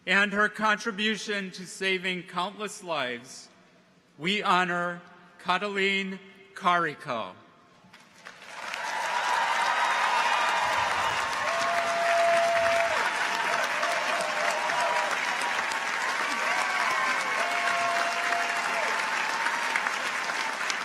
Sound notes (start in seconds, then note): 8.7 audience applauds; 8.7 audience cheers